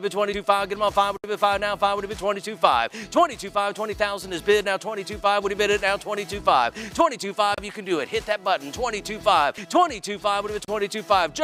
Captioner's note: auctioneer patter